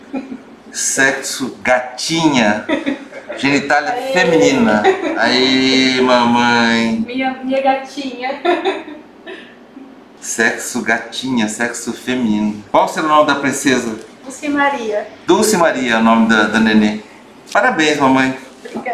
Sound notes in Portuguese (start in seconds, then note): 2.5 risos